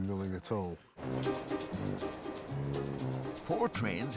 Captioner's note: jaunty music; train rattling